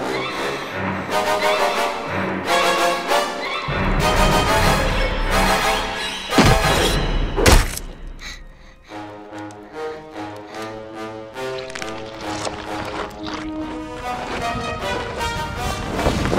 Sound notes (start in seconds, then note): 0.1 horror music; 7.4 knife thuds; 9.5 ominous music; 11.3 blood squelching